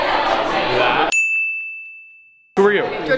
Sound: ding

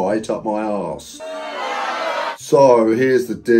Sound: crowd booing

